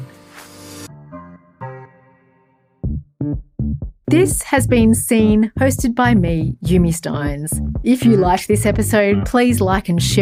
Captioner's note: voiceover